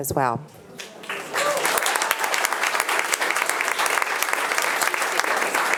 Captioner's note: attendees applauding